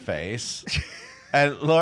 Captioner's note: laughing